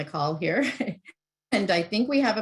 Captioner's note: giggles